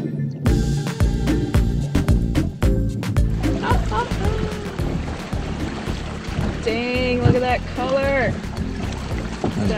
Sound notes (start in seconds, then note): 0.2 upbeat music; 3.5 laughs